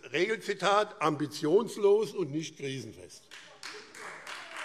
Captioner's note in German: Lebhafter Beifall Freie Demokraten